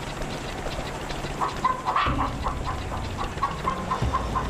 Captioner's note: chickens clucking